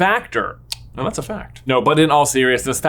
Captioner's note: clicks tongue